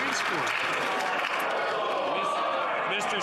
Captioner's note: some Applause